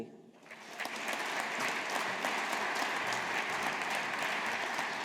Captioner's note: audience applauding